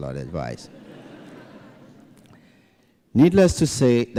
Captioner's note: laughter